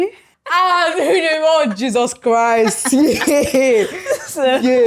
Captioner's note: laughs